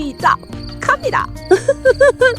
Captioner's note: laughs